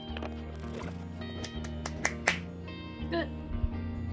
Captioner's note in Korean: 짝.짝.짝